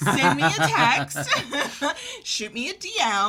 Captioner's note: laughter